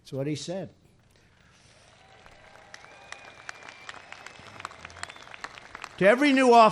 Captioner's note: applause